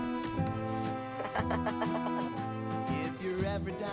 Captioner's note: Jimmy laughing